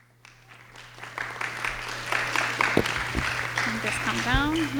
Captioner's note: audience clapping